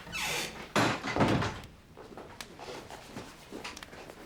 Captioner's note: door creaking